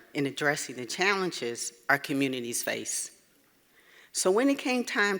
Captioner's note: none